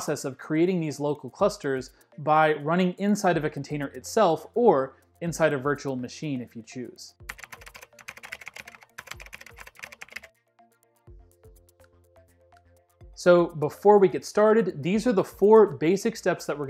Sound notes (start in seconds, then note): 7.3 keys clacking; 7.3 upbeat music